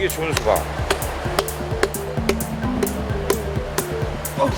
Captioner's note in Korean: 통통통